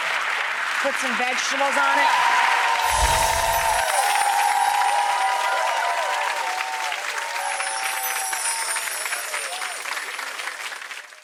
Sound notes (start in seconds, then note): 2.0 cheering and clapping